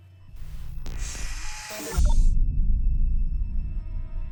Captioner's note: static hissing